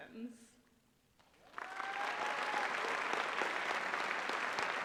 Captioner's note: applause